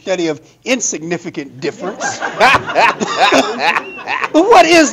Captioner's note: audience laughing